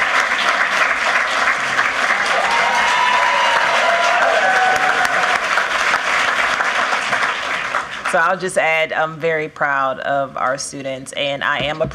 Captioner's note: cheers and applause